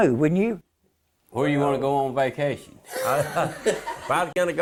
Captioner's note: laughter